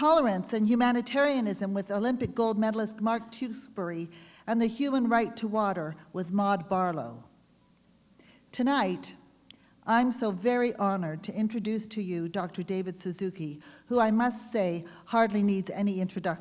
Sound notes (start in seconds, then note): none